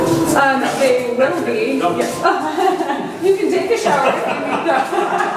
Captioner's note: laughs